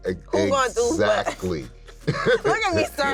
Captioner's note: chuckles